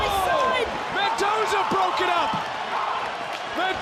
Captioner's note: audience cheering